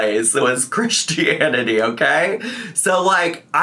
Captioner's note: laughs